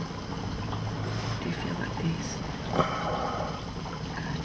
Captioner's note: exhales